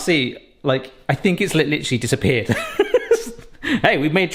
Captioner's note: laughs